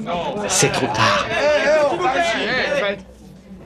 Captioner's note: clamoring